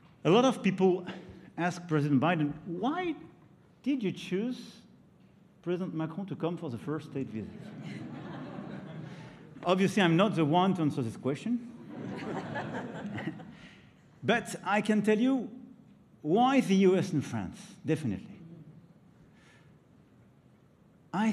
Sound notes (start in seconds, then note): 7.5 laughter; 11.8 laughter